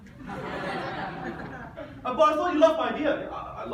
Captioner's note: audience laughs